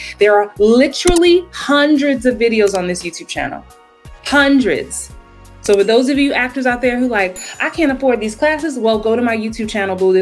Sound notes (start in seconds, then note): 5.6 mouse clicks; 7.3 bell chimes